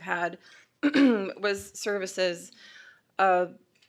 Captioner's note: clears throat